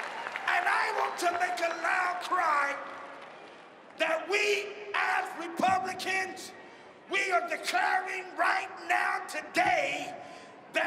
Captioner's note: cheering and applause